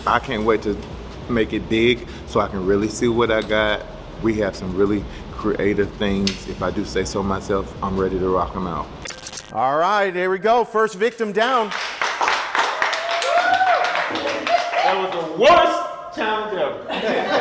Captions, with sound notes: I can't wait to make it big so I can really see what I got. We have some really creative things, if I do say so myself, I'm ready to rock 'em out. - All right, here we go. First victim down. (competitors applauding) - That was the worst challenge ever.